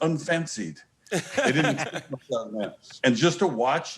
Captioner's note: laughs